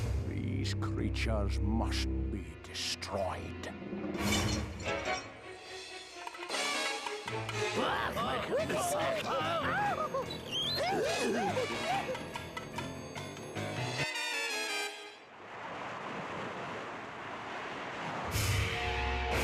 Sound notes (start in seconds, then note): 7.8 screaming; 9.0 howling